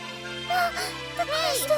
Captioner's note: gasp